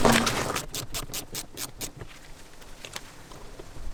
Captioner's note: wrench clicks